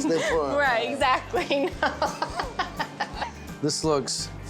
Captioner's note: giggling, laughing